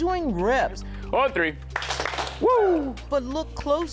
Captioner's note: claps hands